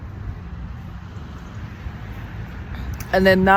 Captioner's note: city atmos